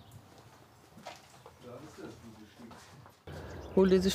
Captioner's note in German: Leise Gesprächsfetzen